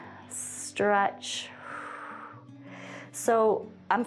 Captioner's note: exhales